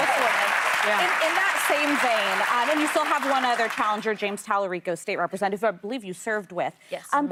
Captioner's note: applause